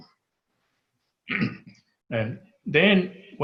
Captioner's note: clears throat